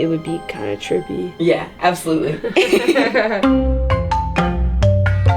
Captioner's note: both laughing